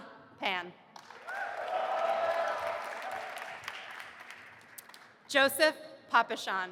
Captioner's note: audience applauding and cheering